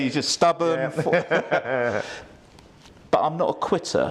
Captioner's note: both laugh